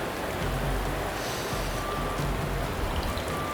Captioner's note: sniffing Sound